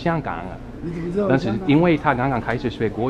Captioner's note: mandarin